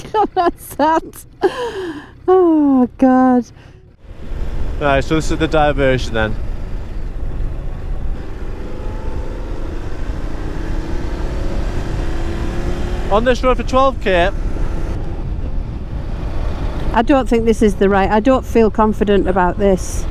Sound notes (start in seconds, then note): 7.2 engine rumbling